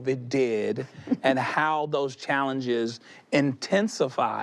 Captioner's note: she chuckles